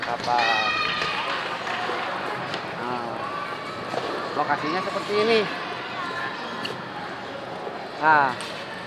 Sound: applause

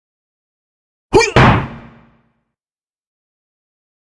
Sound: sound of kung fu

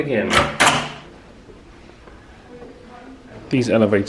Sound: latch clunks

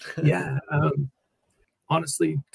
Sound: laughs

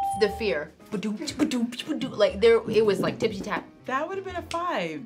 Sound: imitates piano playing

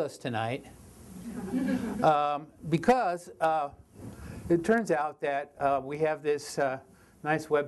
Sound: audience laughter

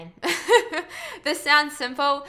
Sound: lady laughing

